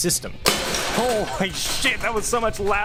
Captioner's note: wrench sounds